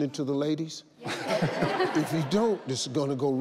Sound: audience laughs

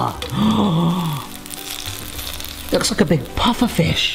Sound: oil crackling

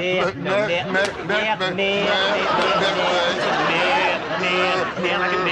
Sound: audience laughter and applause

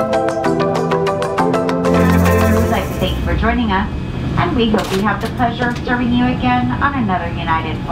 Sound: plane audio

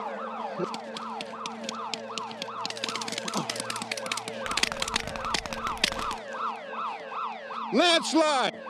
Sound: alarms ringing; gunfire

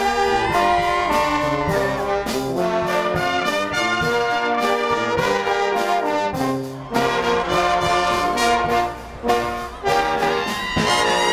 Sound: applause

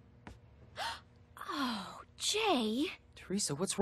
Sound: gasping

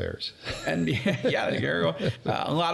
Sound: laughing

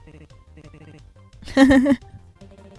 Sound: laughs

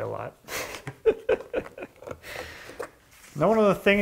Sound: laughing

